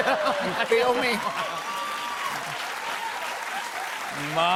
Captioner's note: cheers and applause